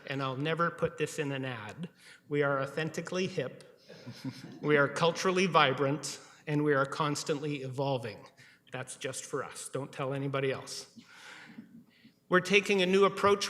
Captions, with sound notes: that--and I'll never put this in an ad--we are authentically hip-- [laughter] >> --we are culturally vibrant, and we are constantly evolving. That's just for us. Don't tell anybody else.